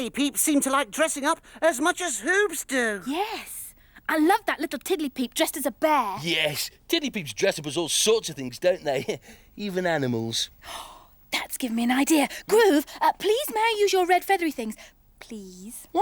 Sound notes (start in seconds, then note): 8.6 Groove laughs; 10.6 gasps